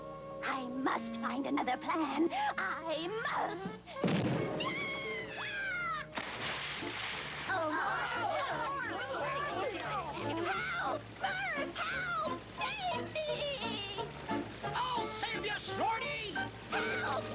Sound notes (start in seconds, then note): 4.0 explosion; 8.6 splashing